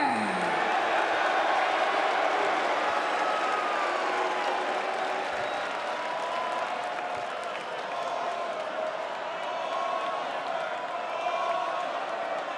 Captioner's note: crowd cheering